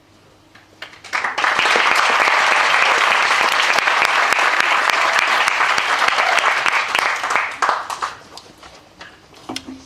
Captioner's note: applause